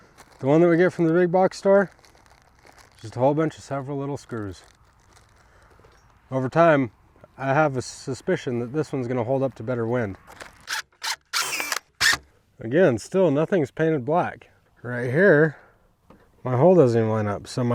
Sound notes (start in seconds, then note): 10.6 drilling clicks